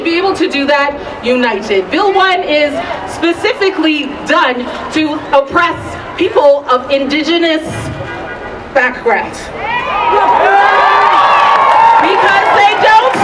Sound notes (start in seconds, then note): 9.6 cheering